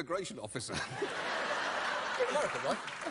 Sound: audience laughter

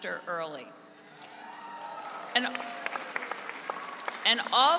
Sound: audience cheering

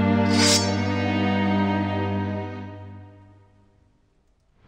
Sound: sword unsheathes

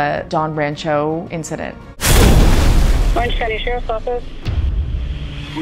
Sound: water Splash

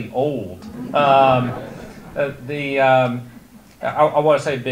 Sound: audience laughter

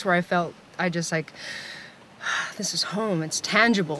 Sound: sighs

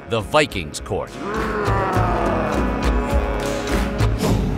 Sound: viking roaring

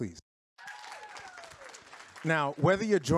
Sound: audience claps

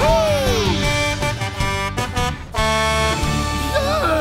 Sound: Blaze honking

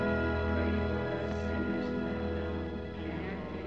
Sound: tolling Continues

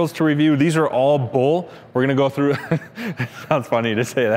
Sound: laughs

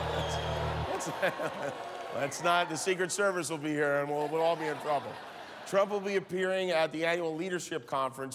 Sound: crowd reacts

